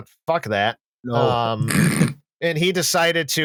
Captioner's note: snorts